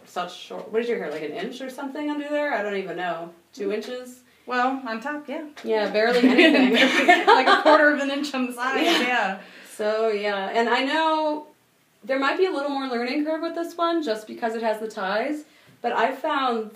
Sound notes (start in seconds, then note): 6.2 laughing